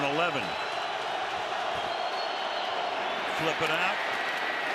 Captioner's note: crowd cheering